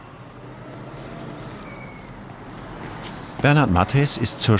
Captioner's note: birds chirping, vehicle noise